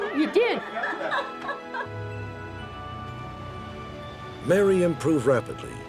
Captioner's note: laughing